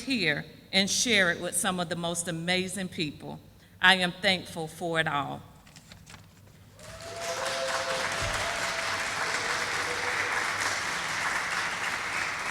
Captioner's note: sound of applause